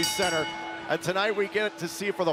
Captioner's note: bell ringing